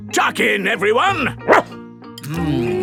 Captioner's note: barks